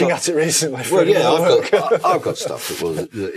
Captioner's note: laughs